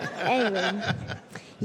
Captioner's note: laughter